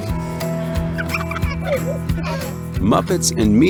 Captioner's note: children laughing